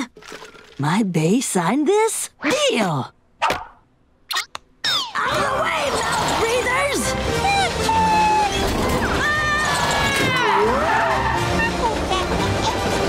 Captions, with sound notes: My BAE signed this? Deal! OUTTA THE WAY, MOUTH-BREATHERS! Choo-choo! [screaming] [laughing]